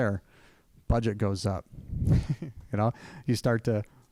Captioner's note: chuckling